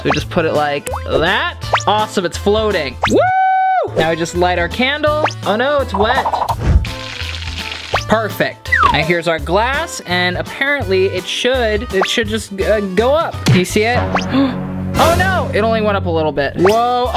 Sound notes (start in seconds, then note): 3.1 wooing; 6.4 burning